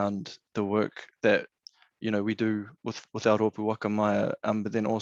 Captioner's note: speaking in foreign language